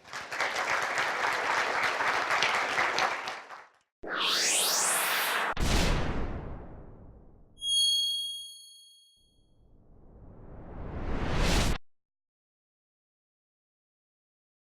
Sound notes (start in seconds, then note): 0.0 audience applauds; 5.5 graphic landing with a boom; 7.6 single note pings